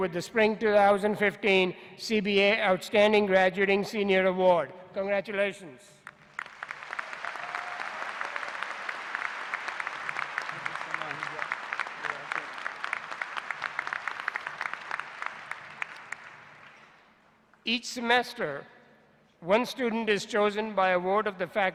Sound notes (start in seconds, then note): 6.0 applause